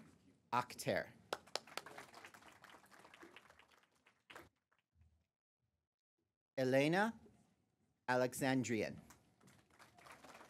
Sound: applause; applause

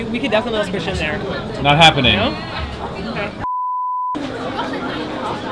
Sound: beep

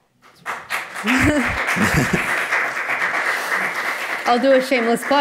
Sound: audience applauds; chuckle

